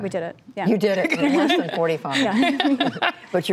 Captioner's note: laughter